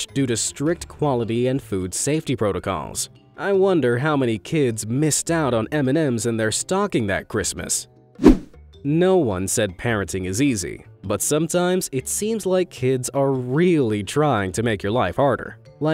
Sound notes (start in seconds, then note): 8.2 image whooshing